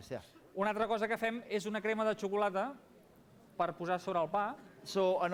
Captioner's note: non-english speech